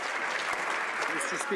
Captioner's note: some Applause